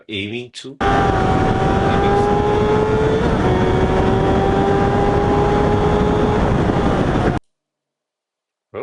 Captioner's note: tires screeching